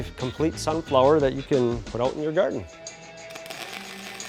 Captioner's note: sparking